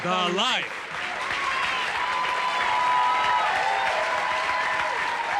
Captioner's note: applause, hoots, and howls continue